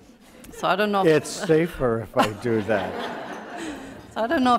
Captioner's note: audience laughter